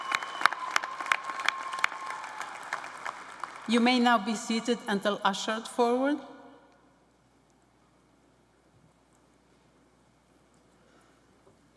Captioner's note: applause